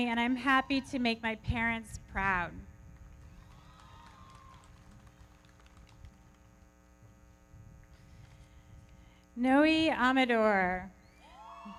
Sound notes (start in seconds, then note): 3.0 everybody clapping; 3.3 audience cheering; 11.2 audience cheering